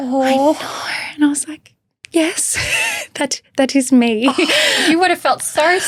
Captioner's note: chuckles